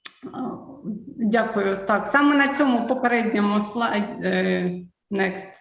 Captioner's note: foreign Language